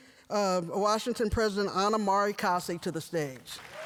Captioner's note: applause